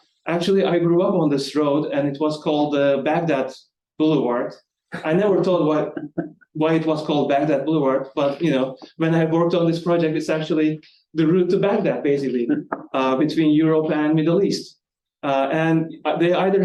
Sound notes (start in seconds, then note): 5.0 light audience member chuckling